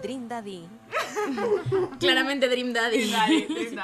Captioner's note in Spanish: risas